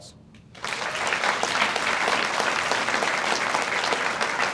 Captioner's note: audience applauds